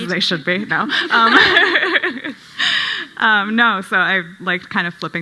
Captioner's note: panel laughing